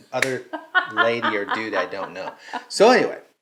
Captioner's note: laughing; clapping